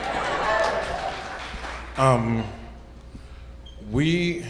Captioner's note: audience cheers